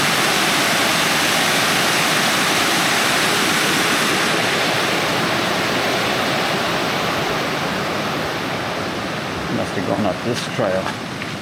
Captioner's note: water splashing